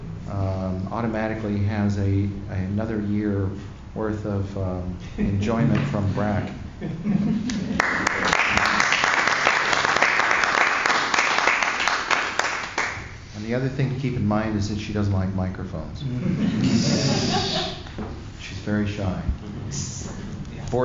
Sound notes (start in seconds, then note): 6.8 laughter; 7.7 applause; 16.2 laughter